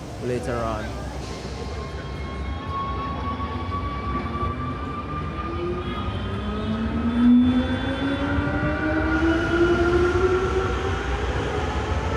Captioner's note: metro revs up while leaving station